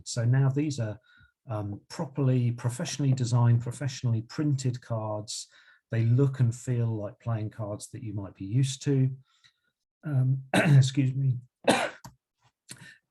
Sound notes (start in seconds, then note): 11.6 coughs